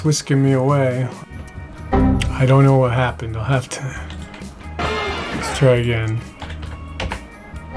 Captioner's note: Windows Crash Ding